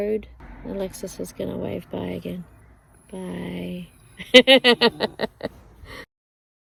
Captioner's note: car goes past; laughs